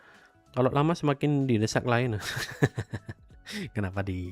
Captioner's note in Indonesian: tertawa